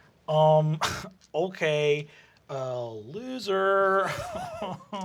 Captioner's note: scoffs; deep voice; laughter